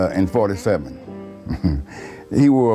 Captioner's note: chuckles